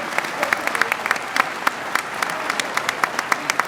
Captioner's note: applause